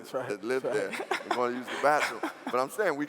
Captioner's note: laughing